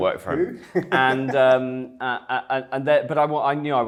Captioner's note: chuckling